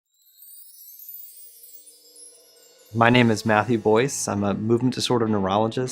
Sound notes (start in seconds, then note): 0.3 magic sound effect